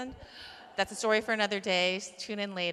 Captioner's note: laughter